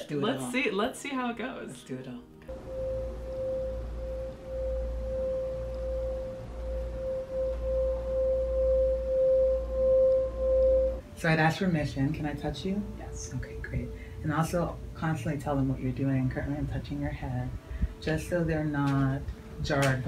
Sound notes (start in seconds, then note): 2.7 bowl humming